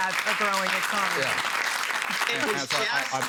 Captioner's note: applause